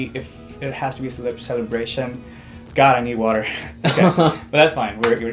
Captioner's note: laughs